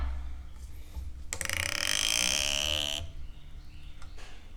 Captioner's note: sound of creaking cork